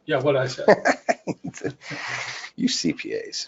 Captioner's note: person laughing